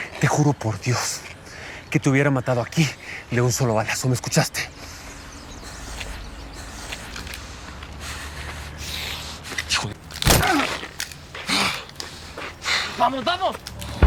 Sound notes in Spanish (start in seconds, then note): 10.3 Grito